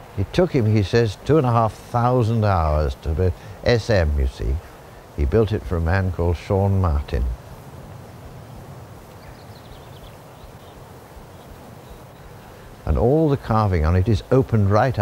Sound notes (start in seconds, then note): 9.6 birds chirping